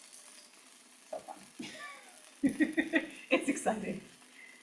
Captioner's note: laughs